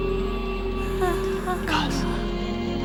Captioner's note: moans